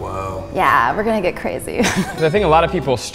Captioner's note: laughs